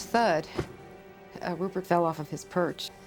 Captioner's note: Rupert thuds